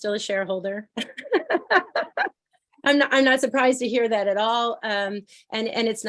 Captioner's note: laughter